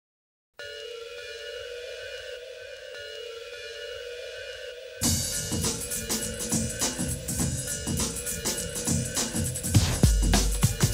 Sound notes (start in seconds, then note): 0.7 alarms blaring; 5.0 hip hop music